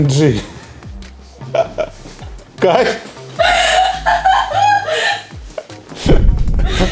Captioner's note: laughing